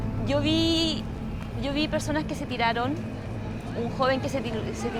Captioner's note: speaking in foreign language